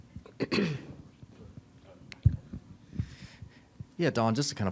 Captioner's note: Staley clearing throat